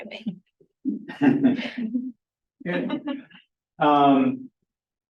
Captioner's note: person laughing